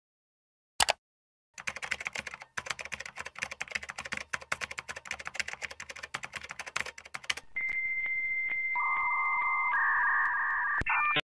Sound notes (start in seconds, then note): 0.8 mouse clicking sounds continue; 1.5 keyboard Typing Sounds; 6.7 dial Up Internet Sounds